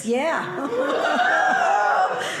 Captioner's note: audience laughing